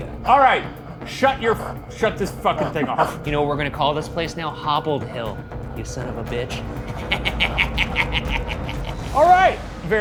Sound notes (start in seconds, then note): 6.7 laughs